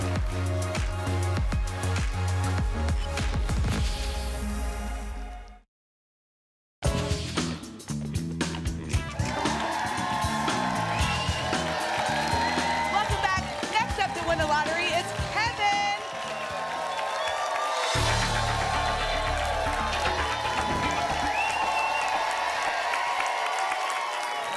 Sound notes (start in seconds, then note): 9.2 applause and cheering; 15.9 applause and cheering cont; 20.6 whoosh; 21.6 applause and cheering cont